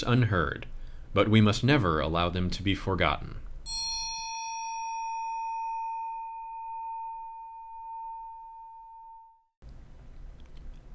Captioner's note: A bell sounds